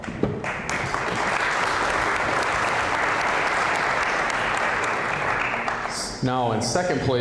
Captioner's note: applause